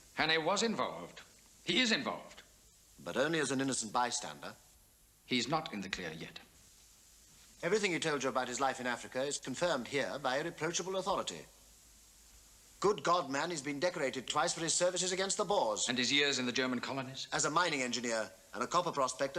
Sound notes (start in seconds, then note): none